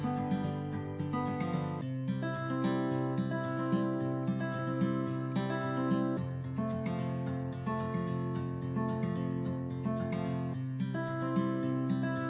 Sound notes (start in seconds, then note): none